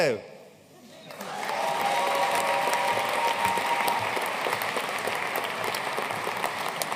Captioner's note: audience cheering and applauding